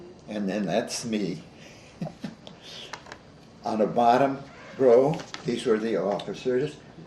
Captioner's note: chuckles